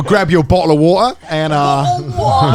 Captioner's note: all laughing; Aussie accent; Australian accents intensify